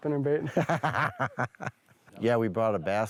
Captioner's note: laughs